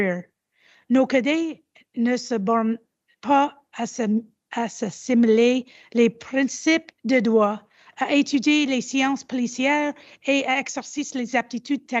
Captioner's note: repeats in French